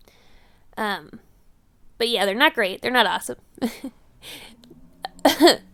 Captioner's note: laughs